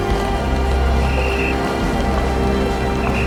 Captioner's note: policeman's Whistle Blows